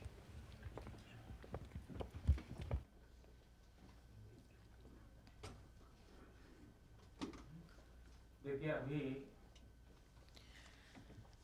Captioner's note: through translator